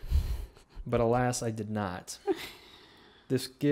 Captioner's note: laughing